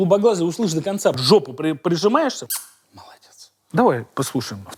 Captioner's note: smooches